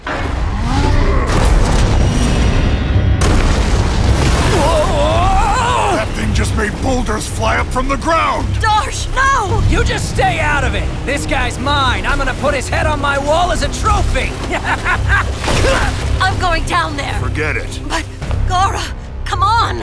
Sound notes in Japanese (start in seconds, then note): 0.6 雄たけび; 4.5 叫び声